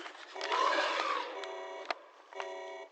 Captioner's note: Alarms blare and Huggy screeches; distant roar